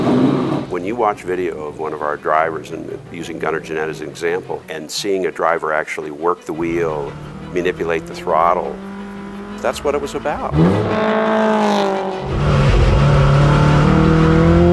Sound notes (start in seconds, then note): 0.7 engine Rev; 10.8 track Sounds